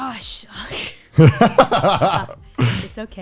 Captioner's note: laughs